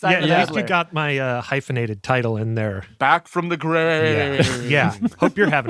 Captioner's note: laughs